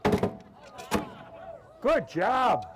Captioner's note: crowd cheers